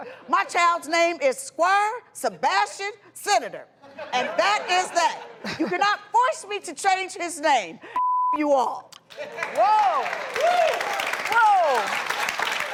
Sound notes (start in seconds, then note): 9.0 applause